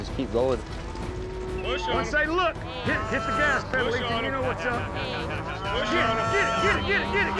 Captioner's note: overlapping chatter